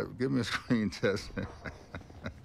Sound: chuckling

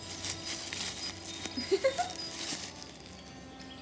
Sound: giggling

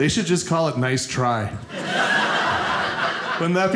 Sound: audience laughing

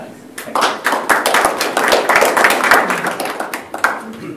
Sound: applause

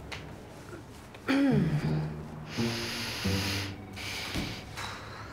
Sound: clears throat

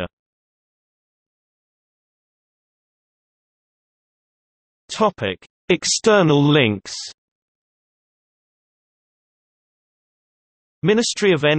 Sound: in Arabic

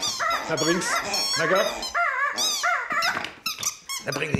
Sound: squeaking noise; squeaking noise continues

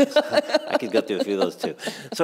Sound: laughter

